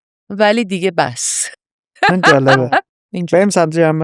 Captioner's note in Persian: خنده